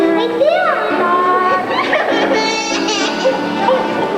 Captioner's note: starts crying